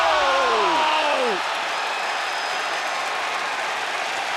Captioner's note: crowd cheers